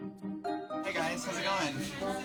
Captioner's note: indistinct chatter